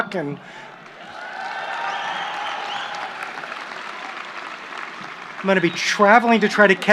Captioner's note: applause